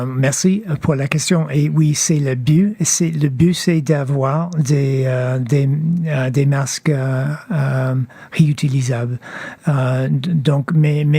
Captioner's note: speaking French